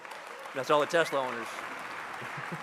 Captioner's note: crowd cheering and applauding; chuckles